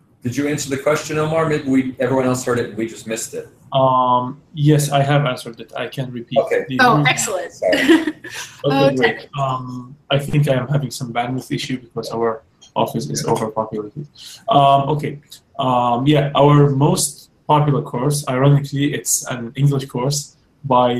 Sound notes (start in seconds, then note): 9.0 laugh